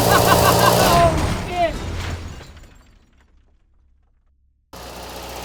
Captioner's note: crashing